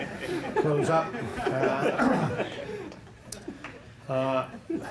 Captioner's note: laughter